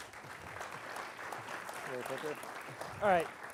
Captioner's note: audience applauds